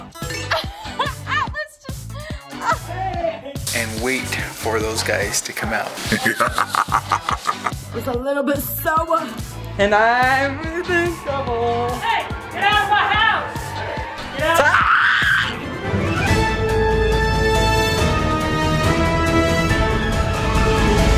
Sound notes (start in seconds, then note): 0.2 laughing; 6.1 laughing maniacally; 14.4 screaming; 16.5 upbeat music